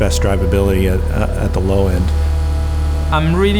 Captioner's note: car engine roaring